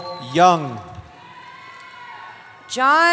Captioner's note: cheering